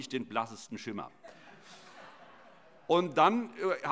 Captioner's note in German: Heiterkeit